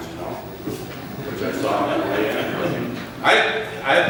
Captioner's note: laughter